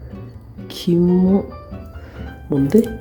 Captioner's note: eww in Japanese